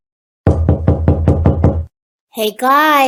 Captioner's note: knocking on door